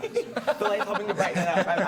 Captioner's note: laughing